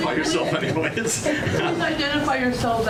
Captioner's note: audience laughs